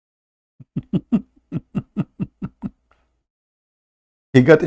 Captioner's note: Ketawa